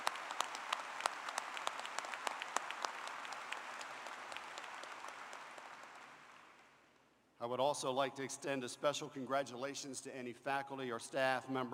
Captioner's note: applause